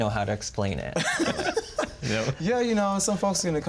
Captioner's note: laughs